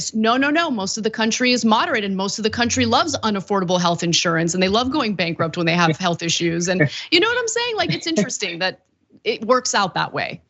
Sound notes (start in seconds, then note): 7.7 laugh